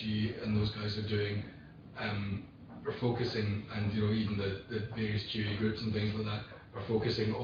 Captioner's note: audio distorts